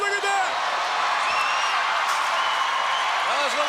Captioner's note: crowd cheering